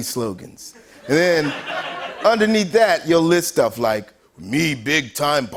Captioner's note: laughter